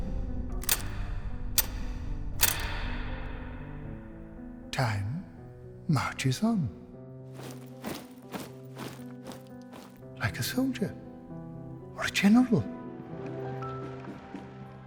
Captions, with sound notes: (clock ticking) time marches on. (footsteps marching) Like a soldier or a general.